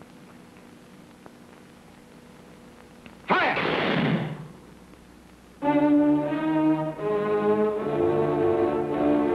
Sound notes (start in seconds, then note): 3.4 guns firing; 5.6 dramatic music